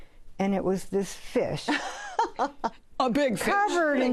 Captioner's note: laughs